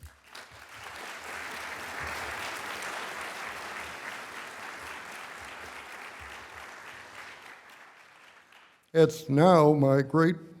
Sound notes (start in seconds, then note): 7.8 applause